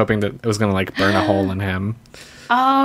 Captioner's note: gasps